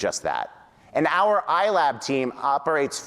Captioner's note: none